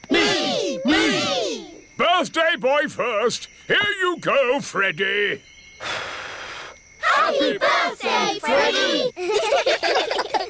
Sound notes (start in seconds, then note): 5.8 blows; 9.0 children giggle